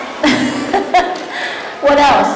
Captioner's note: laughing